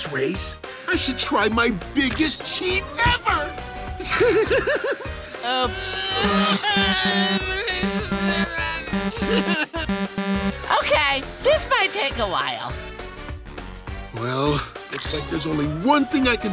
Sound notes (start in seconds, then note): 4.1 laughing; 6.3 whining